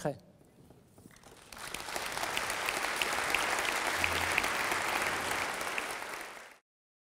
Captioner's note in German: Applaus